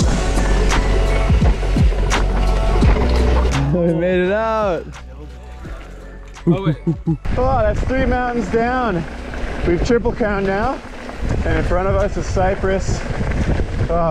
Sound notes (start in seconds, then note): 0.0 mellow synth music continues; 6.5 grunts encouragingly